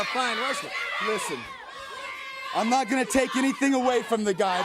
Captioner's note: crowd cheering